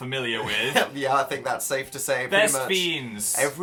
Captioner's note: chuckles